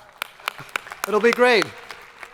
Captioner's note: crowd applauding